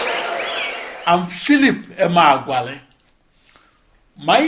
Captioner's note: wild applause and cheering for 22 seconds